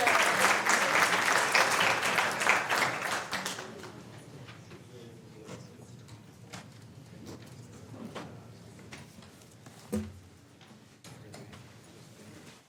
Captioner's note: applause